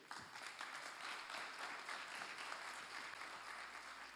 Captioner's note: applause